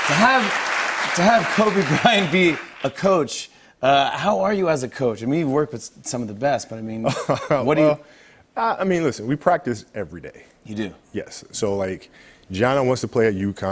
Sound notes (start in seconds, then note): 8.0 laughs